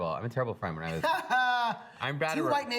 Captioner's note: laughs